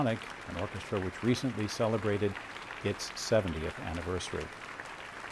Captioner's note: applause